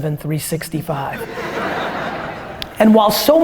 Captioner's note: audience laughter